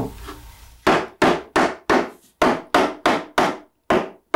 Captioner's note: tools bang